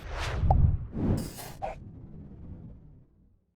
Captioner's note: whooshing